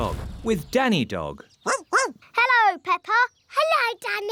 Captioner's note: barking